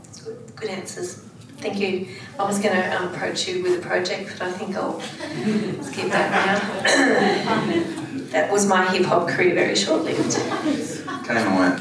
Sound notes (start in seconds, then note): 6.8 clears throat; 7.0 audience laughs